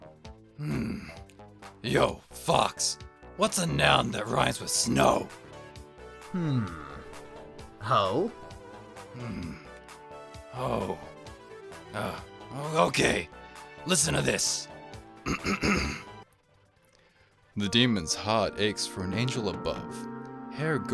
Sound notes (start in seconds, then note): 15.2 clears Throat